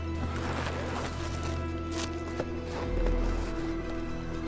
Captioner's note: trash crinkling